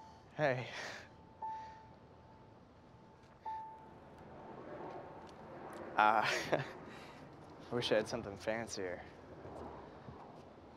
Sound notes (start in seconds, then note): 6.1 laughs